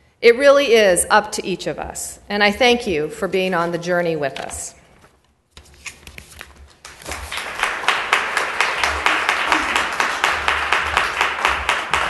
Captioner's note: applause